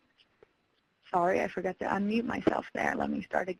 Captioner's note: voiceover